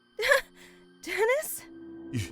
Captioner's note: sigh of relief